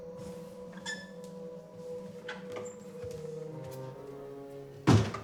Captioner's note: pensive music; door squeaking; door clattering; eerie music